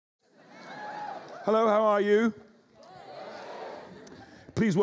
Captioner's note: audience whoops